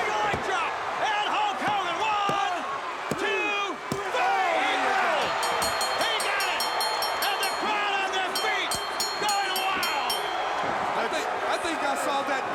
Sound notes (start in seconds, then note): 4.1 crowd cheering; 5.2 bell ringing